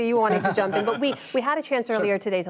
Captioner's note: laughter